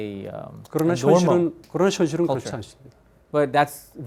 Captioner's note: speaking in Korean